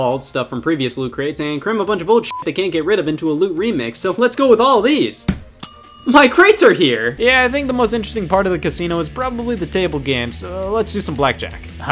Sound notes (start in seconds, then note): 2.2 beep; 5.7 ka-ching sound